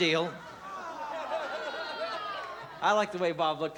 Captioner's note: audience jeering